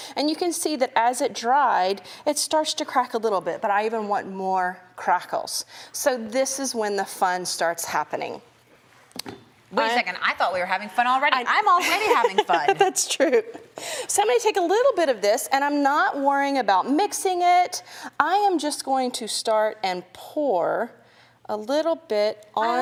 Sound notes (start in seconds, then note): 11.7 giggles